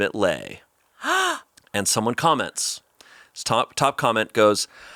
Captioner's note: gasps